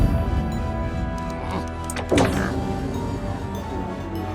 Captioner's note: grumbling